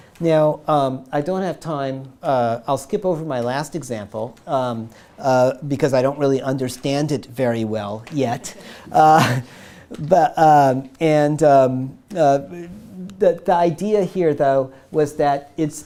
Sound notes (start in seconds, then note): 9.6 everyone laughing